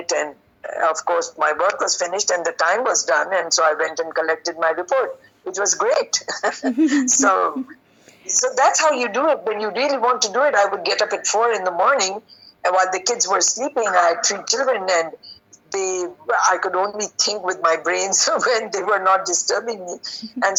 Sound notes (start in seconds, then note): 6.4 laughing